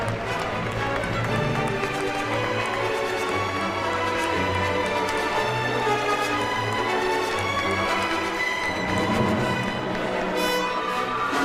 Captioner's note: applause